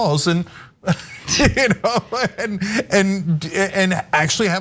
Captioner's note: laugh